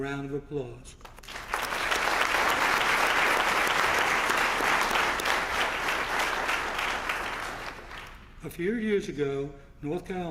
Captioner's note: applause